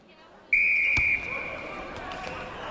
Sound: whistle

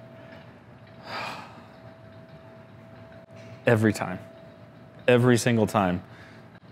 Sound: sighs

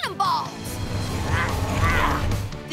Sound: grunting

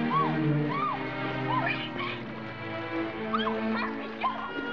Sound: squeals

